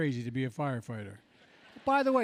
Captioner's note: laughter